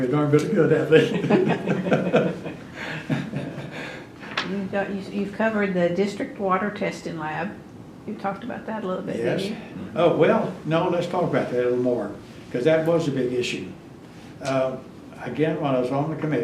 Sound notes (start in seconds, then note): 0.9 laughter